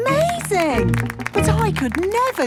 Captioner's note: clapping